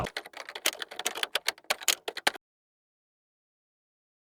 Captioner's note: typing sounds